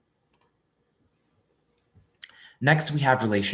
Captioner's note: mouse clicks